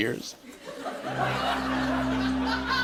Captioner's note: laughter